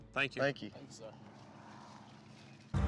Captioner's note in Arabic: خطوات